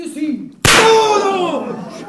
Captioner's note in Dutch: revolvershot; publiek lacht